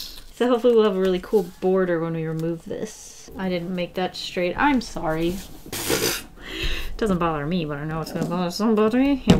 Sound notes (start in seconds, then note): 5.9 laughs